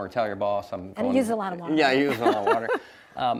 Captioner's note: laughs